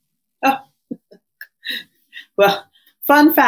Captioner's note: chuckles